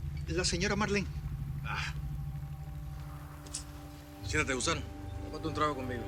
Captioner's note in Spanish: Chasquido bucal